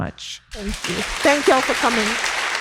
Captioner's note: audience applauds